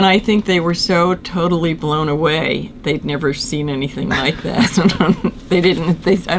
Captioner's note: laughter